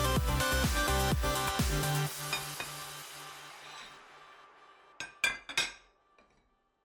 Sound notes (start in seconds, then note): 5.0 cutlery clank